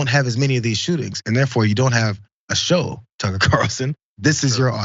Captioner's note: laugh